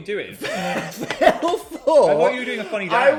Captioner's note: laughs